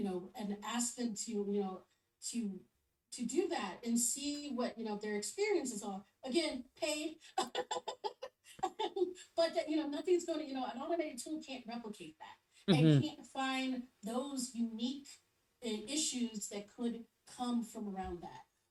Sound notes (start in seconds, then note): 7.4 laughs